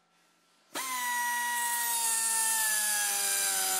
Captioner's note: whirring